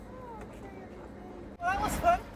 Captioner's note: faintly speaking